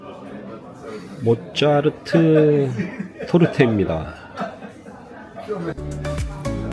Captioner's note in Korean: 웃음